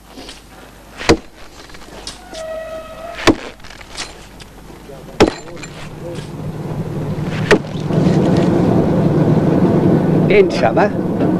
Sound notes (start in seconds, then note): 1.0 sound of axe chopping into wood